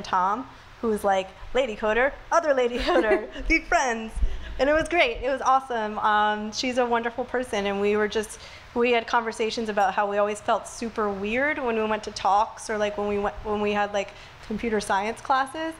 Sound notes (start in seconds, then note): 2.8 laughs